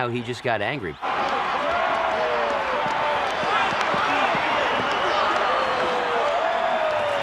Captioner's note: crowd booing